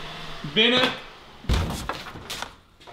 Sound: thuds

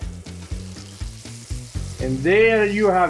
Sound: cheese sizzling

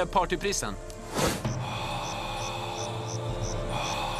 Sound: inhales sharply

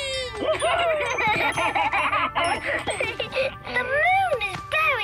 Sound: laughing

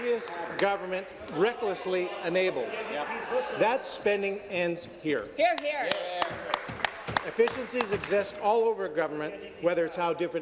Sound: applause

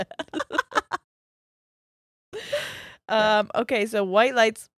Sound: both laughing

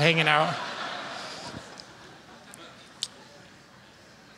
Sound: laughter

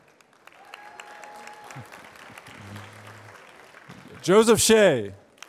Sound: applause

